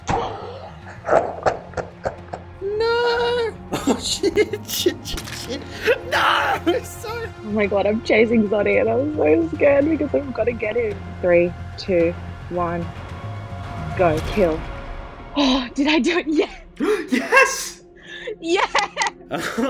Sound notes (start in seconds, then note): 0.2 evil laughing; 5.3 squelching; 18.1 laughing